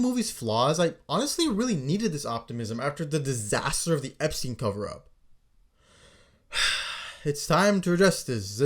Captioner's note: sigh